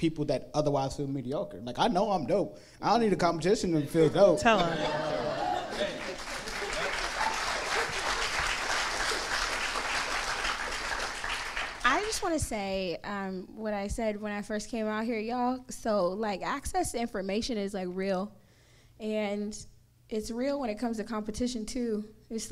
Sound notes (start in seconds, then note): 6.0 audience laughing; 7.2 audience clapping